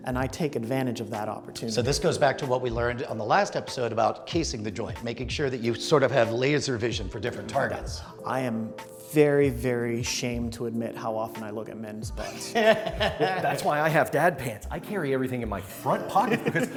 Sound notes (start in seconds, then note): 12.2 laughs